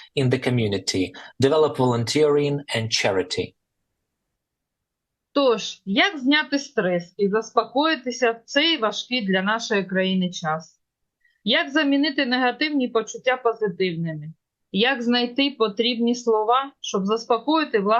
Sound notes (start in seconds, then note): 4.4 foreign language